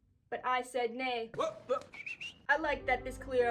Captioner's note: points & whistles; inspirational music crescendos